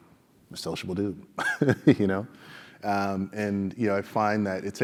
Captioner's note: laugh